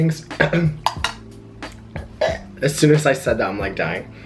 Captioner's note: coughs